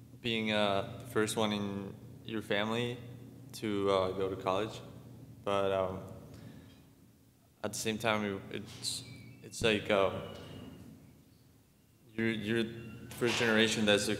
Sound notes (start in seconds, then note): none